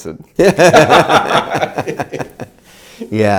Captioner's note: both laugh